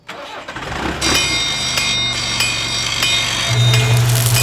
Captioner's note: engine turning over, tools whirring, clanging